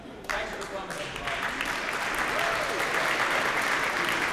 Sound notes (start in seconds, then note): 2.3 applause